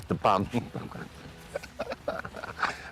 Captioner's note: laughing